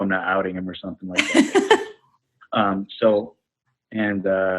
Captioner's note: laughs